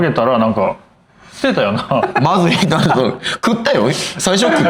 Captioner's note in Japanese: 笑い